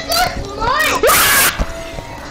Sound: scream

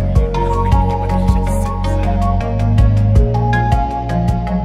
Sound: upbeat music; murmurs; upbeat music

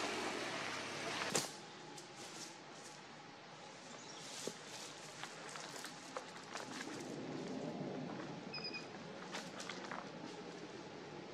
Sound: footsteps in leaves, birds chirping, turning on the chainsaw

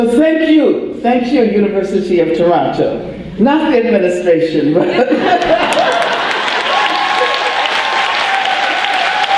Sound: audience cheer and applause

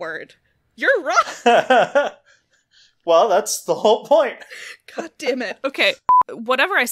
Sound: laughs

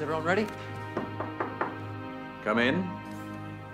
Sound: knock on door

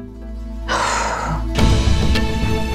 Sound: exhales sharply

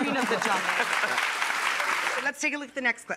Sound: audience claps

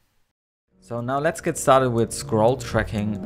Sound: voiceover

